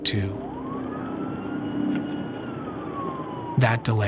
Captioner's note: sirens blaring